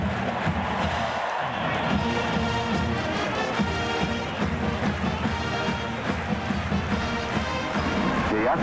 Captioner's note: cheers